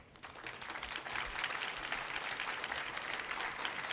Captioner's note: audience applauds